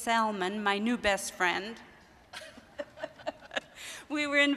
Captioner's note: laughing